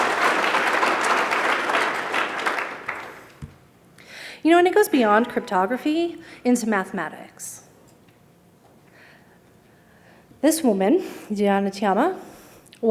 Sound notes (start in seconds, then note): 0.0 applause